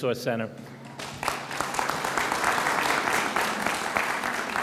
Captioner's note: audience applauds